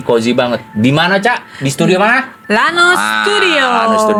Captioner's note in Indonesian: berteriak